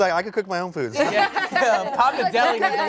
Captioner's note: everyone laughs